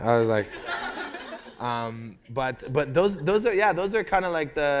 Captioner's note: laughter